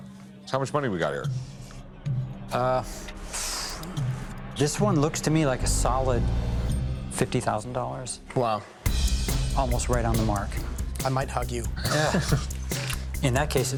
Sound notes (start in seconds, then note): 3.0 exhales; 11.7 Rick laughs